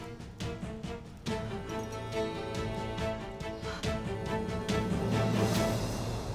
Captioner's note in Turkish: Alev sesi; Müzik - Gerilim